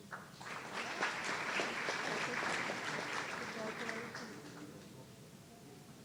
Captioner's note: audience applauding